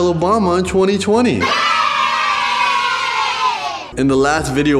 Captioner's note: crowd Of Children